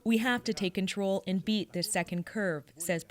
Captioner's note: speaking Foreign Language